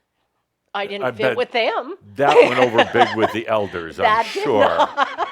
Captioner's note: she laughs